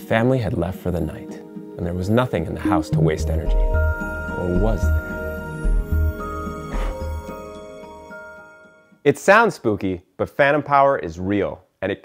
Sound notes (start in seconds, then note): 5.6 chiming music; 6.4 soft blowing